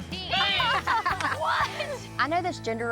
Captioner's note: laughter